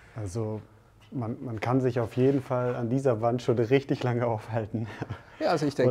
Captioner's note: laughs